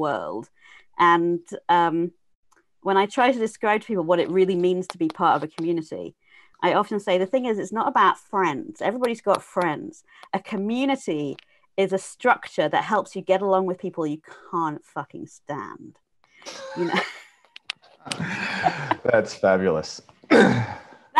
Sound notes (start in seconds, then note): 16.5 laughter